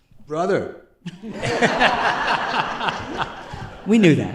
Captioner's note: laughter